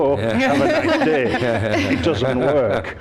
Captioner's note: laughter